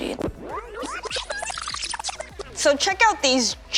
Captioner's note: tape whirl fast-forward